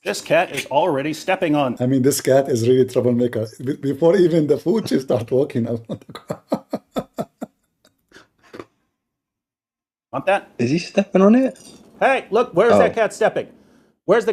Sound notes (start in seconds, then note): 5.7 Ketawa